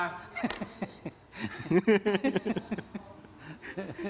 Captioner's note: laughter